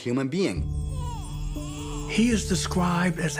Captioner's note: baby whimpers